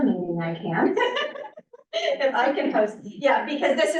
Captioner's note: laughs